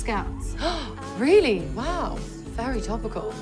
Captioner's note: gasps